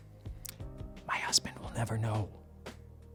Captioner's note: whispers